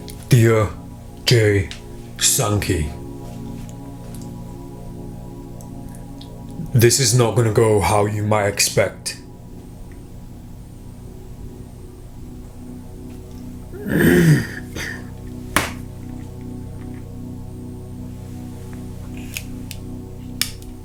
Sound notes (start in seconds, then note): 13.8 clears throat; 16.0 click